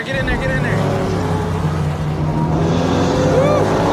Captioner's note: engines rurumbling